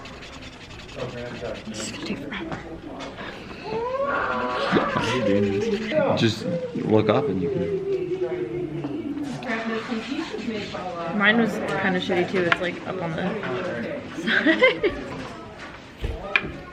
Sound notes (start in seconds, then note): 0.0 marker scratching; 3.6 yell in background; 9.5 marker squeaking; 14.2 laughs; 16.0 table thuds